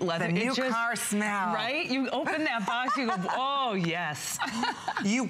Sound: laughter

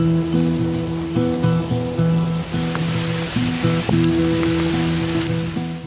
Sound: hail

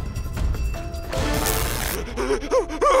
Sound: buzzing; screaming

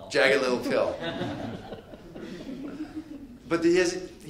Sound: audience laughing

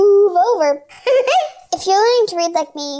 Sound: giggle

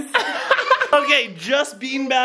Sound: laughing

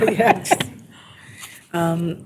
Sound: laughter

